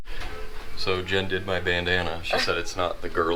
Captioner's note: laughs